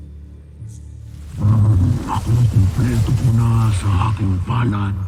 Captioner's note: growls